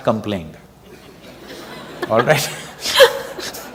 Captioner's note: laughter